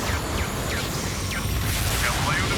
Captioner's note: gunshot